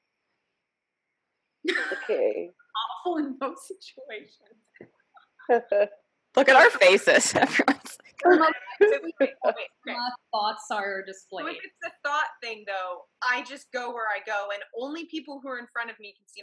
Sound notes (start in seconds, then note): 5.4 laughing